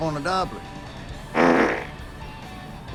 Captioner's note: pbblllttt